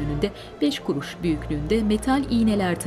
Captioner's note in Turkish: none